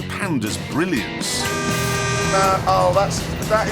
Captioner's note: car horn